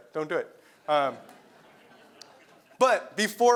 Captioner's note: laugh